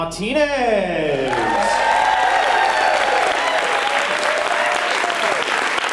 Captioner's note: audience applauding